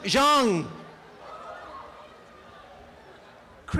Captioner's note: applause and cheering